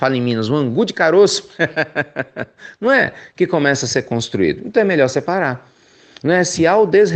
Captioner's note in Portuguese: risos